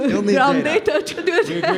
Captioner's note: laughs